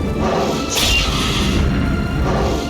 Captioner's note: chunck!; screech!